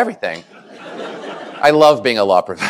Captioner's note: laughter